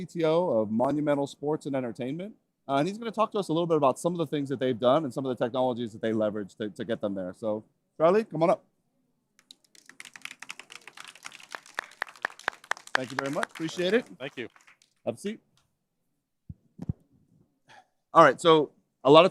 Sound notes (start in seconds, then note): 7.3 applause